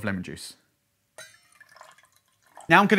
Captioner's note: pouring liquid